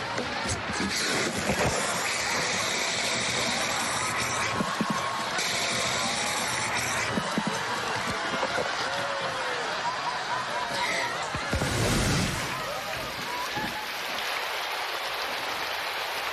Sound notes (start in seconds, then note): 0.0 blows; 0.0 laughing; 11.4 rain falling; 12.0 exhales